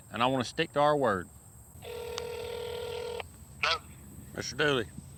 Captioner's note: phone ringing